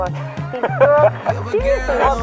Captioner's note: laugh